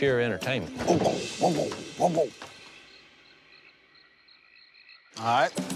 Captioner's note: makes nonsensical sound